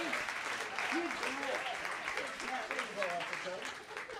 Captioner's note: applauding